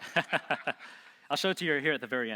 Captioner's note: laughing